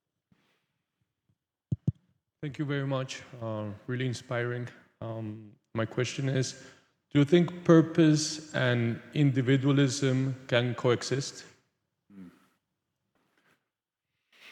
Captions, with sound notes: (mic thuds) - Thank you very much. Really inspiring. My question is, do you think purpose and individualism can coexist? - Hmm.